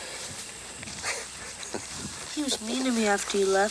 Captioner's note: Anthony chuckles